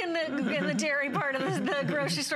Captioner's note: laughter